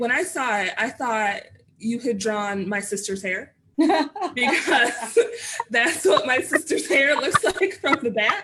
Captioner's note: laughter